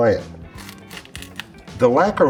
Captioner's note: pepper crunches